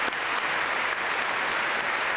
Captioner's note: applause